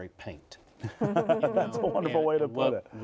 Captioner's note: laughter